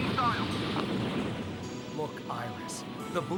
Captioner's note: gunshots